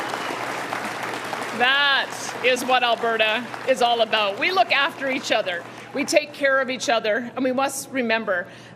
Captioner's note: cheering and Applause